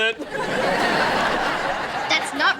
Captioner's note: audience laughing